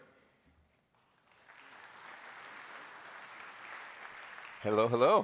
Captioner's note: applause